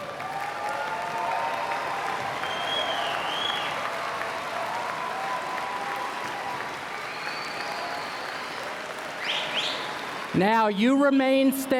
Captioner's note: cheers and Applause